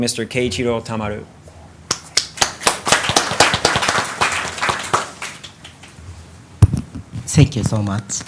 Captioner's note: applause